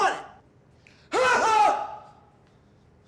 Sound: grunts; yells gibberish

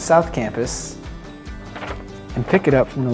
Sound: paper rustling

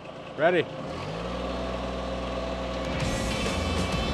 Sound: engine running; upbeat country music

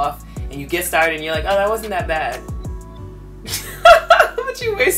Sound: laughs

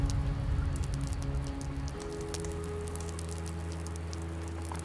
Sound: fire crackling

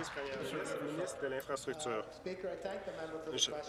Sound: applause

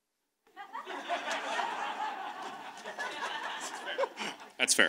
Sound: audience laughs

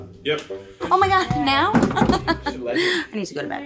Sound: laughs

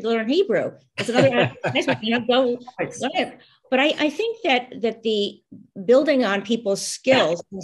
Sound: laughter

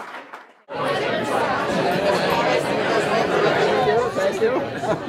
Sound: background chatter

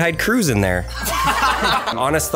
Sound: everyone laughs

